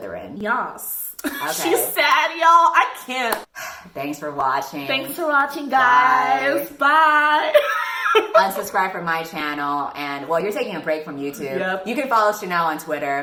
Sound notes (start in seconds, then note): 7.4 starts laughing